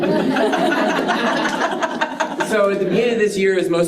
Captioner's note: participants laughing